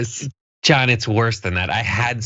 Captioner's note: laugh